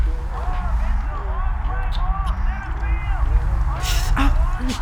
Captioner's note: TV plays in background